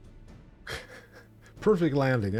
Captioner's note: laughs